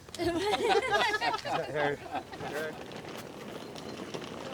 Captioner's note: everyone laughing